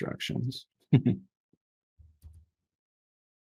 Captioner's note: chuckle